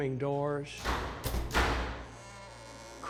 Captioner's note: slams; creaks